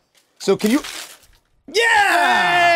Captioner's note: wood breaking